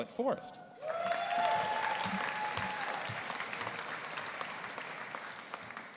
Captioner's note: audience applauding and cheering